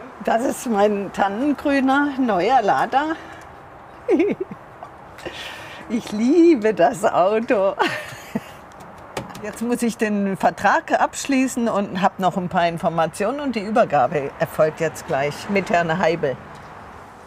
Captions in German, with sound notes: Das ist mein tannengrüner neuer Lada. (Glückliches Kichern) Ich liebe das Auto. Jetzt muss ich den Vertrag abschließen und hab noch ein paar Informationen. Und die Übergabe erfolgt jetzt gleich mit Herrn Heibl.